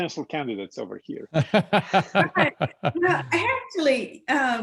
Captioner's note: laughs